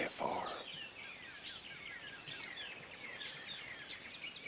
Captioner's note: birds tweeting